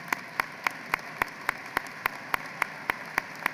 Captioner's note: applause